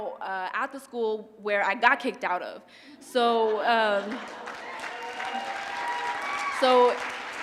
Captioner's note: laugh; applause